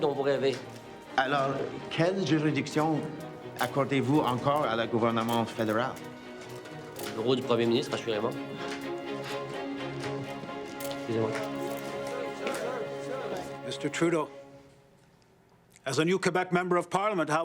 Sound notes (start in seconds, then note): 1.3 journalist speaking in foreign language; 7.2 Rene speaking in foreign language